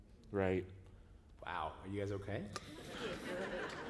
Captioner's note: laughter